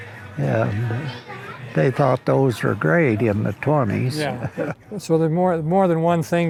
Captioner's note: chuckles